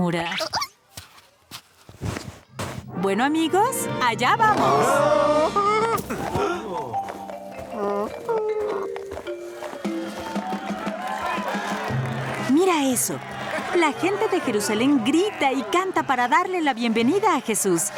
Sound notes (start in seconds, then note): 0.1 caterpillar noises; 5.3 groaning